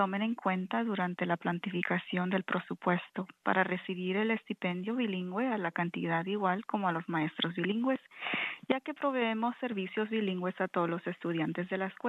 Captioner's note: speaking in spanish